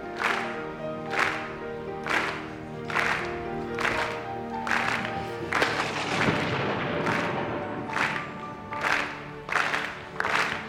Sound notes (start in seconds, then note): 5.2 thunder crashing